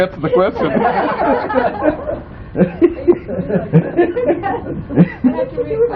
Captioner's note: laughter